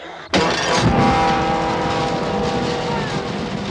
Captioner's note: whimpering